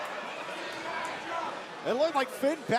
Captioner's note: crowd chatter